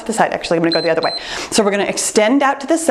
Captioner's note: timer beeps